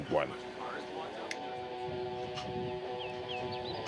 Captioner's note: birds chirping